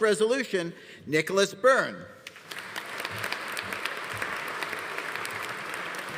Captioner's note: audience applauding